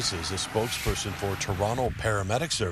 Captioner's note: sirens